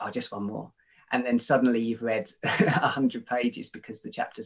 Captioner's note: chuckles